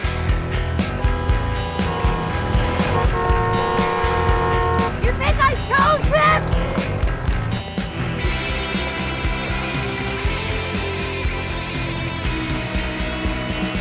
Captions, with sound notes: [car horn blaring] You think I chose this?